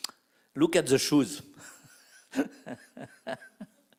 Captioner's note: laugh